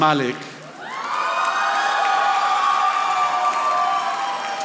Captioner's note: audience applauding